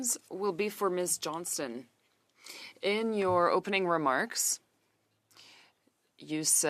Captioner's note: speaking French